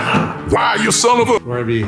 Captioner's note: voiceover